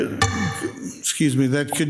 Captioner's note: object thuds